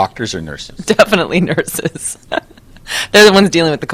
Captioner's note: laughter